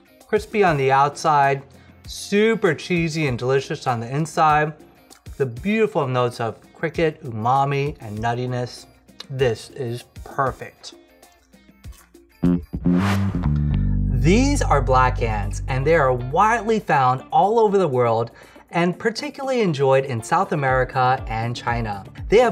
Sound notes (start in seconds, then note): 11.9 crunching; 12.4 funky bass guitar riff